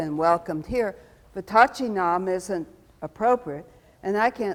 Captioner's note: speaks foreign language